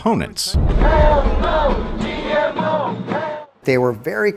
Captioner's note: chanting